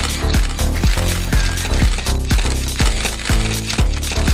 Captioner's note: camera shutters